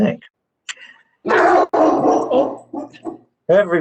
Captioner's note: barking